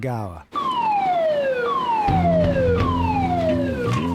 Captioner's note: alarm blares